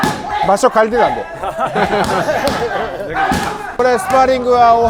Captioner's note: laughs